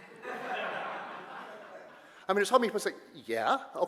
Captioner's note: audience laughter